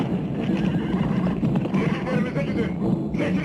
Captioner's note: horses whinnying